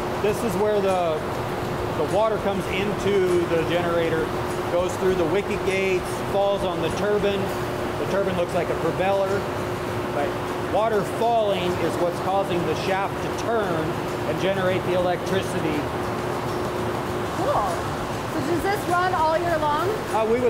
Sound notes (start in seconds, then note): 15.9 generator rumbling